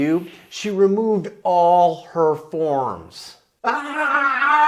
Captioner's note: screams